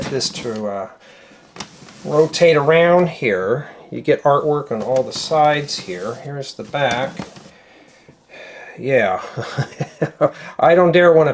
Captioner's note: laughter